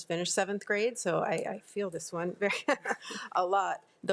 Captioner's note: laughs